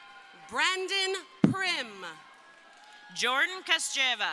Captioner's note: crowd cheering